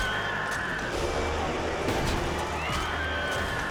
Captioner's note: bike slams; spectators screaming; bike slams; bikes revving; spectators screaming